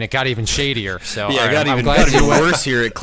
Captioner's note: laughing